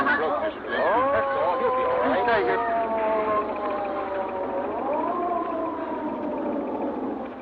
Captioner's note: ambulance siren wailing